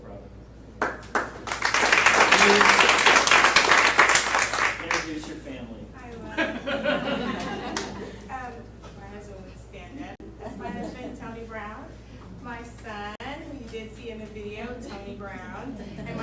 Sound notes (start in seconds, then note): 0.8 audience applauding; 6.3 laughing